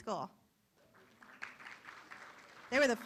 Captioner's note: room applauds